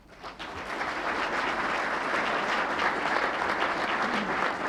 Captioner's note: audience clapping